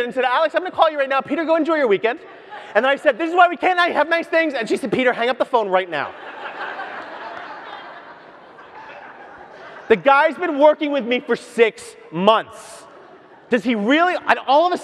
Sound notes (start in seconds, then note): 6.0 audience laughs